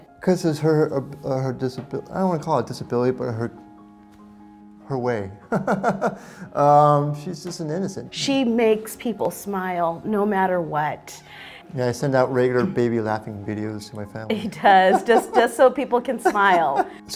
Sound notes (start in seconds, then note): 5.5 laughs; 14.3 laughs